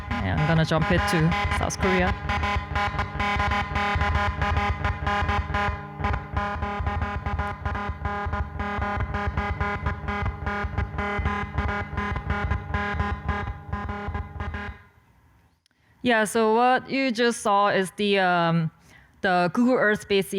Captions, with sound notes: Yeah, I'm gonna jump in to South Korea. (electronic beeps and tones) Yeah, so what you just saw are Google Earth space images,